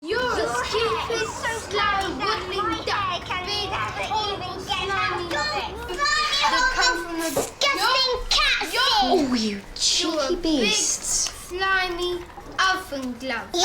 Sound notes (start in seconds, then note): 3.1 kids all talk at once; 5.6 all shouting out at once